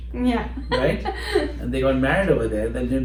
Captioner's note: laughter